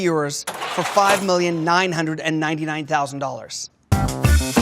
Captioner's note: register rings; upbeat music